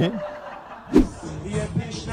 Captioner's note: laughter